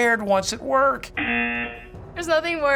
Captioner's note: buzzer